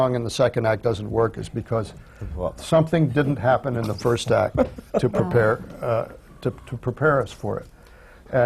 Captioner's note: laughs